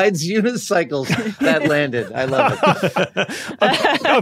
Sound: group laughing

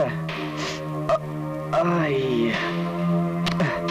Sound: groans

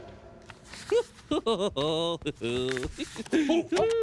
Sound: chuckling

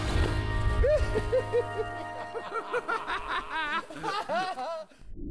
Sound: laughter

